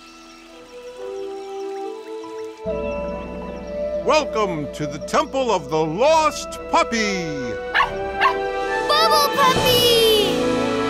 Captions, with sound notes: Welcome to the Temple of the Lost Puppy. [barking] Bubble Puppy!